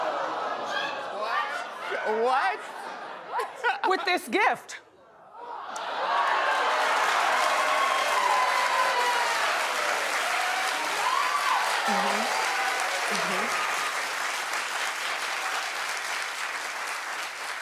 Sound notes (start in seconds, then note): 9.2 audience applauding